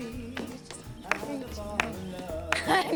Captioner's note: clapping